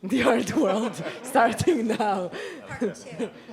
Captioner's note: laughs